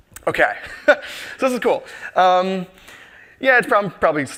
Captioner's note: laughs